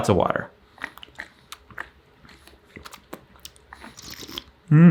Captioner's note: slurping